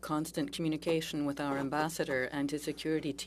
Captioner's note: speaking French